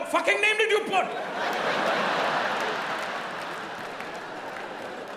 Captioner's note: audience laughs